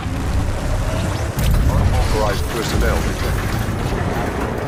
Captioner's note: explosion blasts